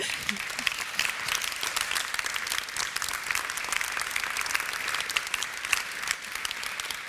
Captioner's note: applause